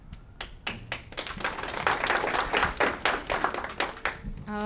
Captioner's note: audience clapping